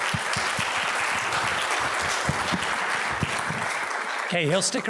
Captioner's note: audience applauds